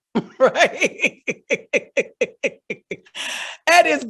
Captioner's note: laughing